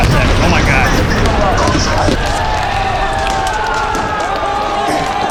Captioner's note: sirens blaring